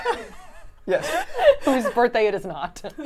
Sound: laugh

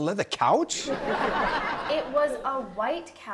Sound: audience laughs

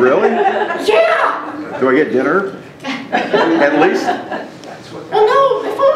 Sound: audience laughs

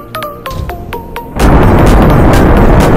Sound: solid Rocket Booster Separation

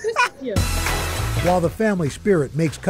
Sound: laughter

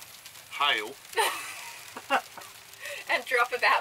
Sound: laughs

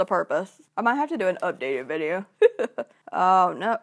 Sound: laughs

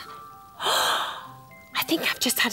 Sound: gasp!

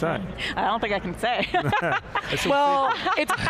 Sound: all laughing loudly

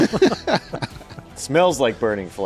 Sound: laughing

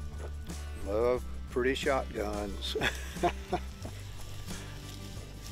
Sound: chuckles

